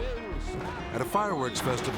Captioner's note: commentator speaking in foreign language